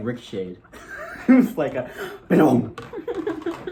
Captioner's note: bouncing sound